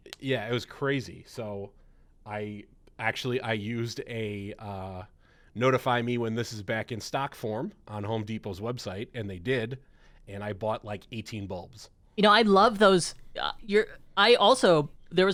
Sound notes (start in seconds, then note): none